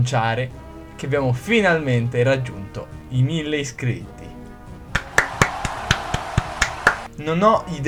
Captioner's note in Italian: suoni di festa